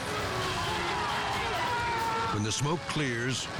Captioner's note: people shouting